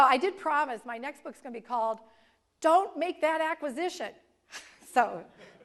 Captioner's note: laugh